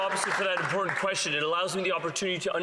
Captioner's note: some Applause